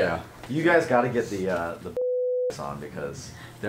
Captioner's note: beep